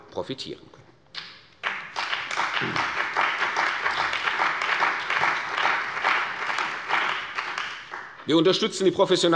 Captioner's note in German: Beifall bei der CDU und dem BÜNDNIS 90/DIE GRÜNEN